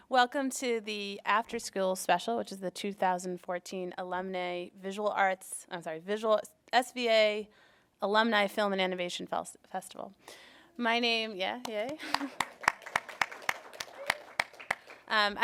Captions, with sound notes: Welcome to the After School Special which is the 2014 Alumni Visual Arts, I'm sorry, SVA Alumni Film and Animation Festival. My name, (person cheering) yeah, yay. (applauding)